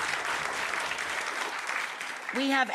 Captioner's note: audience clapping